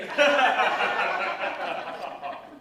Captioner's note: laughter